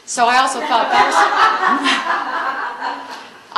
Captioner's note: laughter